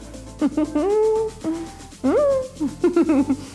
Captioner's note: giggles